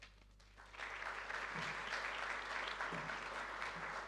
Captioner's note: audience applauding